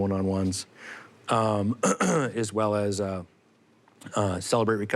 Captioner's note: ahem